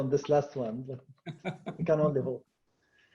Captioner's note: laughs